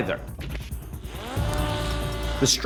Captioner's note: drone whirring